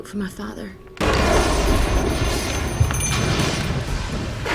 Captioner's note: thunder & lightning; bell rings